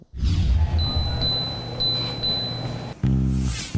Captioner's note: treadmill beeping; upbeat music